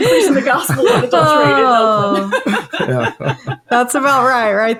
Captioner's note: laughing